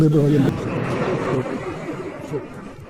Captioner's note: laughter